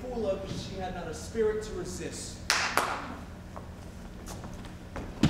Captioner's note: claps